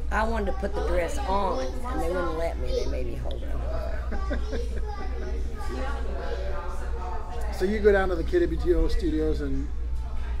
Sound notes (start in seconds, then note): 3.6 laughs